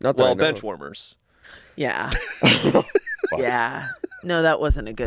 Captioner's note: laughing